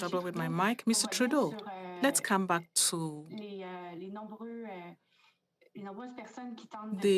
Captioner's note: speaking French